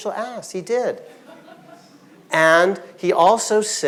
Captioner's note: audience laughing